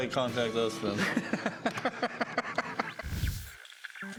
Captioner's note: laughs